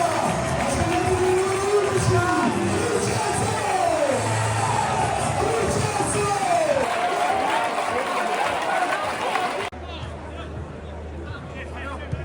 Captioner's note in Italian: Applauso; Applauso